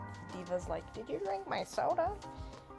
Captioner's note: horrible d.va impression